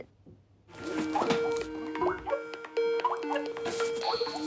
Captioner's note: Skype call sound